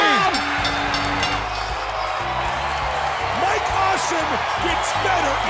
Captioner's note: bell ringing